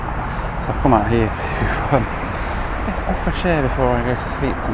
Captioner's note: chuckles